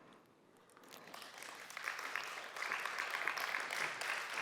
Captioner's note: audience applauds